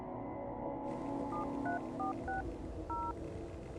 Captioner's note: keys dinging